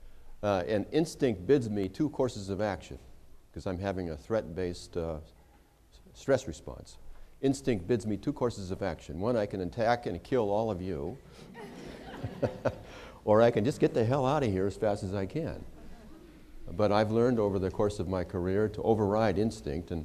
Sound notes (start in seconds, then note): 11.4 laughter